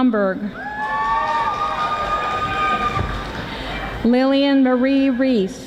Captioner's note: audience applauding